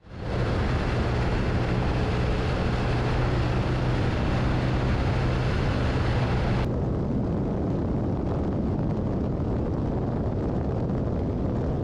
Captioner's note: wind noise